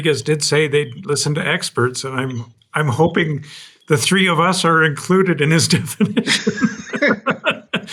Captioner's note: laughs